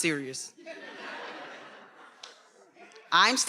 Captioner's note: attendees laughing